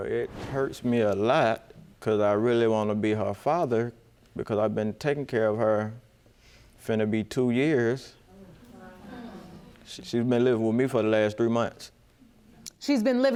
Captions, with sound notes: Well, it hurts me a lot 'cause I really want to be her father. Because I've been taking care of her. It's gonna be two years. (AUDIENCE MURMURING) She's been living with me for the last three months.